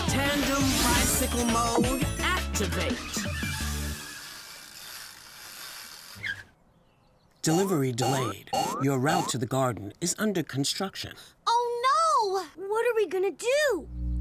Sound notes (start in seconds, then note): 3.1 wheels whirring; 3.2 tires squealing